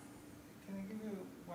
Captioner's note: indistinct conversation